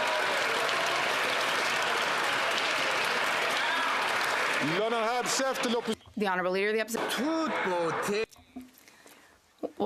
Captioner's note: some Applause